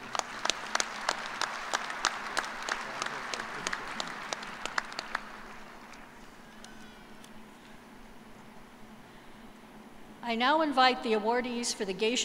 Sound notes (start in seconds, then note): 6.4 applause